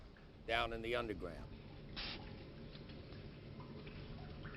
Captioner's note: water dripping